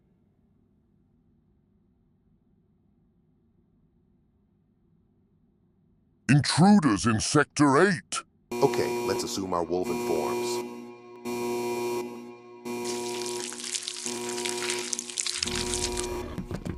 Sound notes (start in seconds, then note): 9.0 alarm Sounds